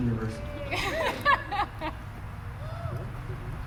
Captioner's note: laughter